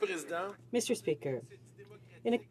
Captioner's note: speaking French